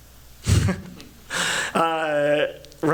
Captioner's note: chuckles